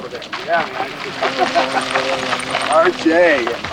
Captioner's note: laughs